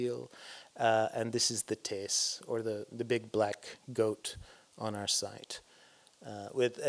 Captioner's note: non-english